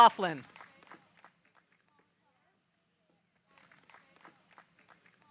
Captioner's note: audience applauding